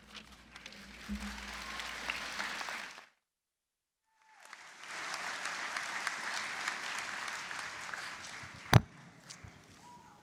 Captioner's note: applause